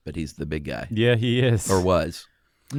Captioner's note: laughs